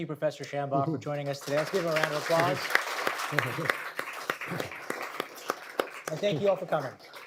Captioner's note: applause